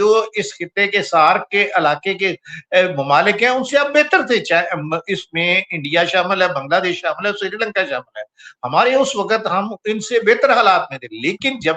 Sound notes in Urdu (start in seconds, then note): none